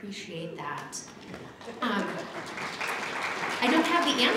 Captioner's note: applause